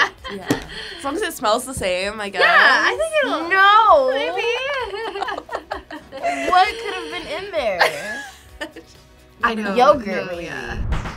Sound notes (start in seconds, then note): 0.0 laughs; 3.8 laughs; 7.8 React laughs; 10.9 upbeat music